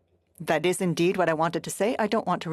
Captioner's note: speaking FRENCH